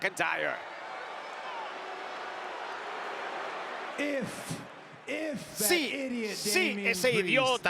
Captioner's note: applause